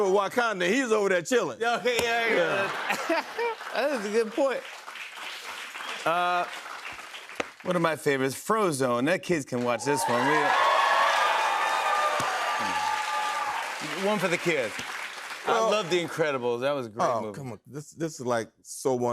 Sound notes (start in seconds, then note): 2.4 laughter; 9.6 cheers and applause